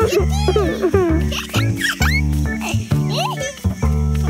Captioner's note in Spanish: risas